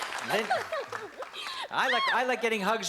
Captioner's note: laughs